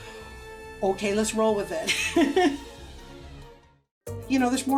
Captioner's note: laughs